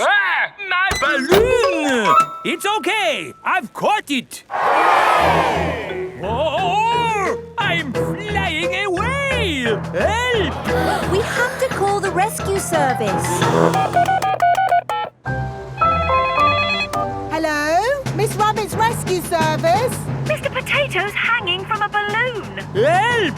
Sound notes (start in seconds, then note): 4.5 crowd cheers; 13.4 beeping; 16.0 phone ringing